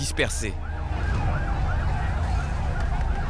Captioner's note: siren